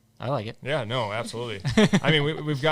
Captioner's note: all laughing